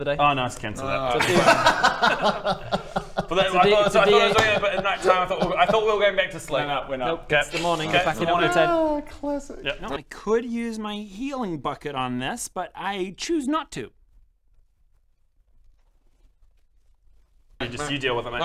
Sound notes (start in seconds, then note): 1.1 laughter; 15.4 disgusted silence